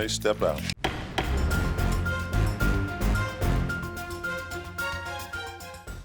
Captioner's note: gavel banging; upbeat music